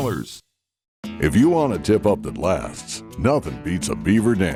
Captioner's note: voiceover